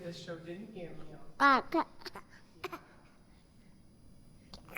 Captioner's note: cooing